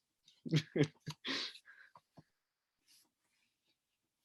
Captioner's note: chuckling